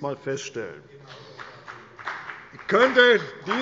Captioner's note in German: Beifall der Abg